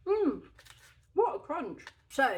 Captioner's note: happy mouth noises; crunching